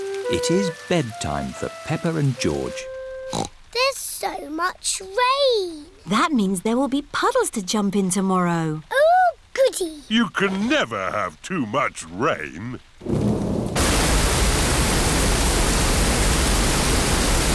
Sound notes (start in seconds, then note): 3.3 snorts; 13.0 thunder rumbling